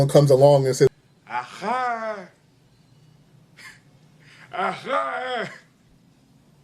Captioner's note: soft laughter